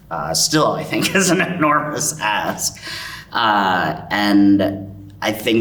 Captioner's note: chuckles